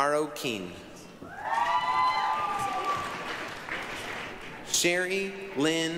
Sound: applause, cheering

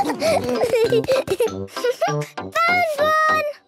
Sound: giggling; snorting and giggling

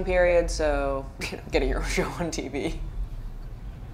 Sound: chuckles

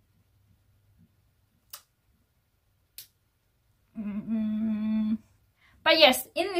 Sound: doubtful face scrunches and sounds

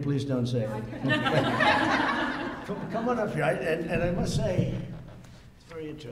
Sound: laughter

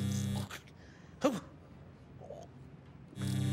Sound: electricity buzzing; muttering

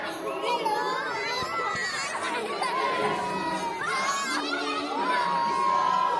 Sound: music & Chatter; various Children Shouting "Hello"; music & Chatter

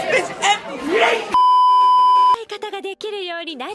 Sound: beeeeeep

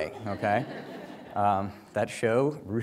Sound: audience laughs

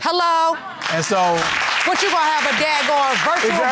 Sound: audience applauding

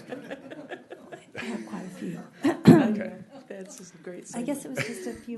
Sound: laughing

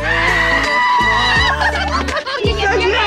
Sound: excited screaming

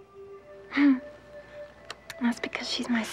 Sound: laughs

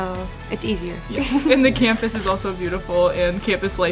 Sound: laugh

